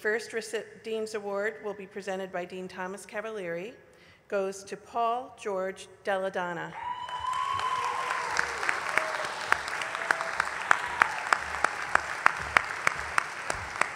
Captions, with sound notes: CANDIDATES. THE FIRST DEAN'S AWARD, WHICH WILL BE PRESENTED BY DEAN THOMAS CAVALIERI, GOES TO, PAUL GEORGE DELLE DONNA. [ APPLAUSE ]